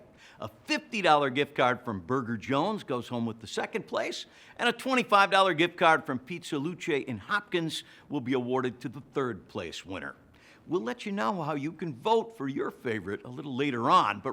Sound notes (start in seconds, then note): none